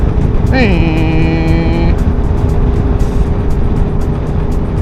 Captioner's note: motorcycle noises